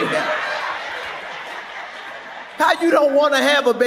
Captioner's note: audience laughs